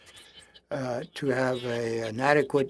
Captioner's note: speaking French